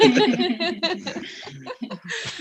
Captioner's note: all Laughing